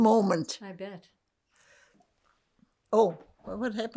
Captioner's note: drinking